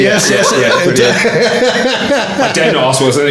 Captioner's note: laughing